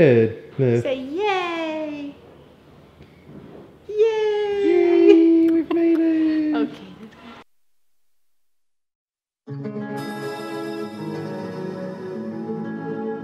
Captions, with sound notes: - We made it, Liv. - Say "yay". Yay! (laughs) - Yay, we've made it! - Okay. (ambient music)